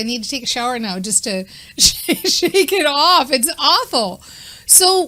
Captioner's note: chuckles